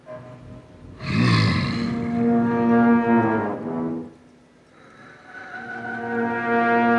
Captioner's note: tense music; Donald growls